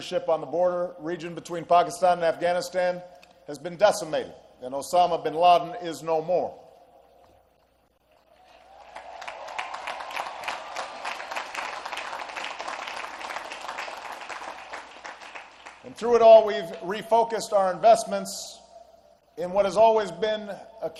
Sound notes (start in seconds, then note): 8.1 applause